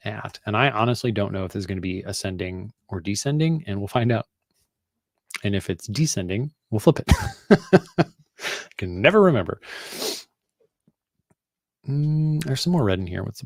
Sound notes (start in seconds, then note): 7.1 laughs